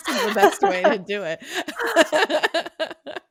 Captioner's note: laughing